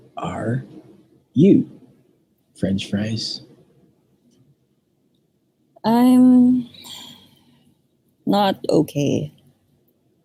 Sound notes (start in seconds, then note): 6.7 sighs